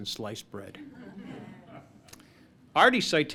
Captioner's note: laughter